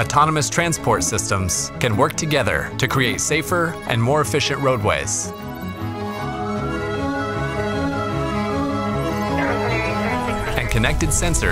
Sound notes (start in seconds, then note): 5.3 ambulance siren